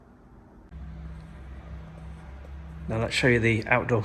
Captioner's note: machine rumbling